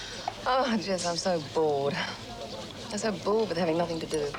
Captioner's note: sighing